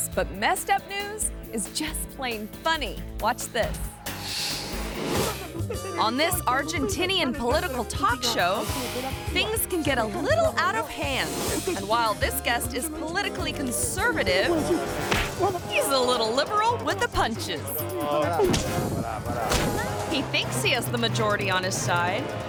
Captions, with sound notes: but messed up news is just plain funny. Watch this. (audio whooshing) On this Argentinian political talk show, things can get a little out of hand. And while this guest is politically conservative, (fist slapping) he is a little liberal with the punches. (fist slapping) He thinks he has the majority on his side,